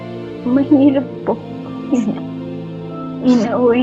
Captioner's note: crying